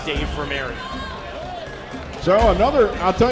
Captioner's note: crowd Noise